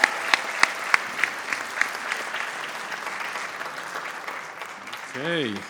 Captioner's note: audience applauds